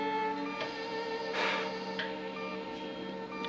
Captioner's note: sighs